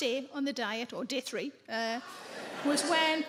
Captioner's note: audience laughing